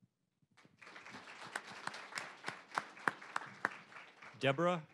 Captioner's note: applause